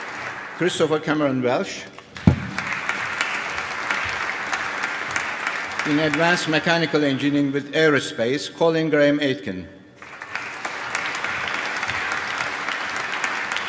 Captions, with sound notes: Christopher Cameron Welsh. (APPLAUSE) In Advanced Mechanical Engineering with Aerospace, Colin Graham Aitken. (APPLAUSE)